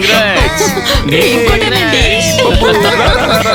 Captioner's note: laughs and screams all around